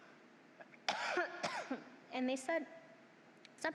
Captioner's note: coughs